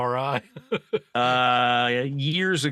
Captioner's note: laughing